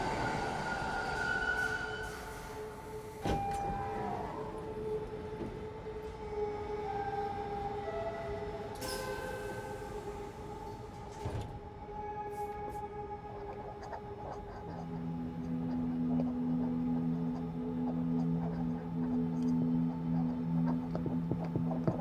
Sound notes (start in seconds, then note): 7.0 subway door chime; 15.6 marker squeaking